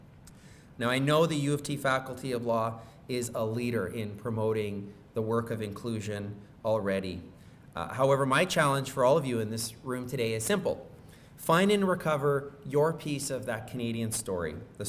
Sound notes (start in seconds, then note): none